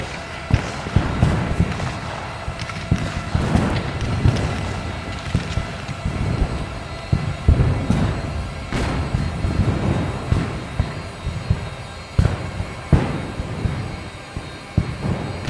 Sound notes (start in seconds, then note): 10.3 guns fire